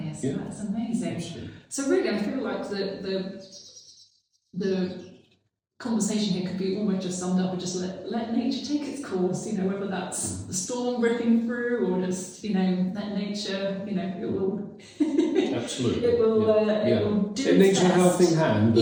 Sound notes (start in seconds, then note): 3.5 bird chirping; 14.8 laughs